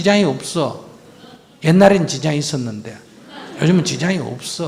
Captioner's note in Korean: 청중 웃음